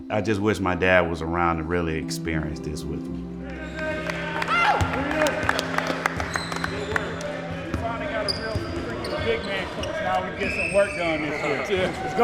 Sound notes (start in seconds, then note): 3.5 players clap; 3.5 players call out randomly